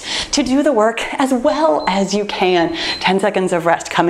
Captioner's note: timer beeps